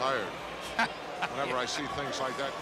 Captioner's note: laughs